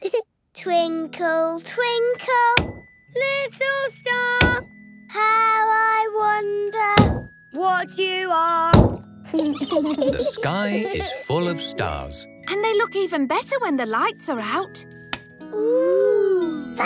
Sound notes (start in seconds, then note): 9.3 giggling